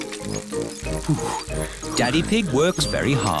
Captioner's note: panting